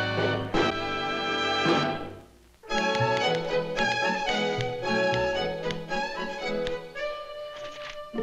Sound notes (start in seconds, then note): 2.8 typing